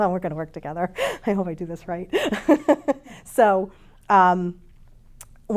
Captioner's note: chuckles